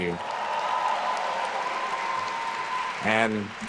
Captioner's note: attendees cheering and applauding